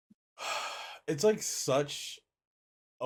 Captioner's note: sighs